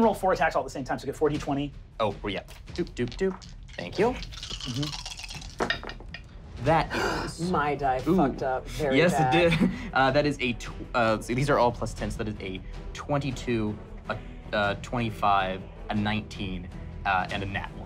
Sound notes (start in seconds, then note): 4.7 rolling dice; 6.9 gasp